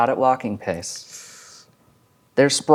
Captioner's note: inhales